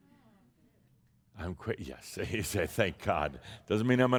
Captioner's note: chuckling